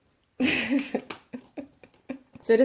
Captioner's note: giggling